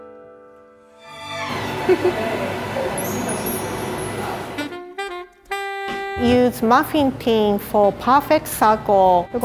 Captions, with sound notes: (giggle) (chimes ringing) (jazzy music) Use muffin tin for perfect circle.